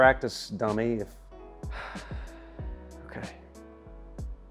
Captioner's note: sighs